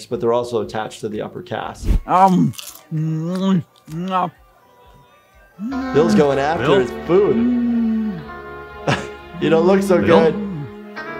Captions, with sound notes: but they're also attached to the upper cast. (Bill munching) Bill's going after his food. You don't look so good.